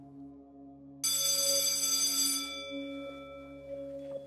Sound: school bell

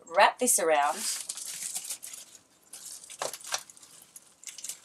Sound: wrap crinkling

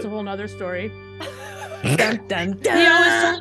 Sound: laugh

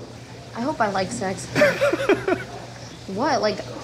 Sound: laughing

